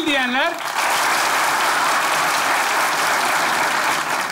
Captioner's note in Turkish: Alkış sesleri